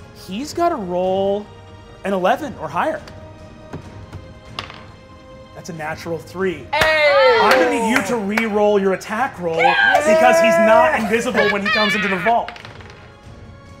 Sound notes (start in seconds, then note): 6.7 all cheer